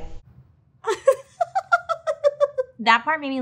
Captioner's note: laughing